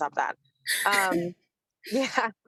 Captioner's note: chuckles